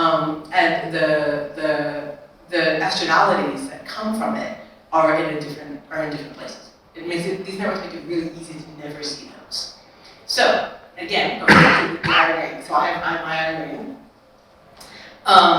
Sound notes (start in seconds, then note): 11.4 attendee coughing